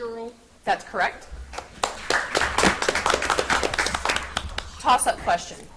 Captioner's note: audience applauds